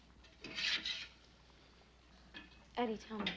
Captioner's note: spatula scraping